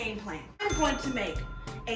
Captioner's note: ding